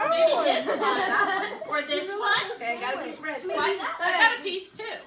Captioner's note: laughter